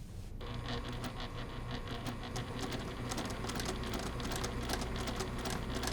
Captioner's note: sewing machine churning